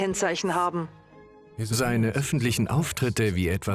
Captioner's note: voiceover